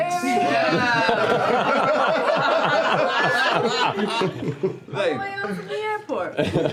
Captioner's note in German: Lachen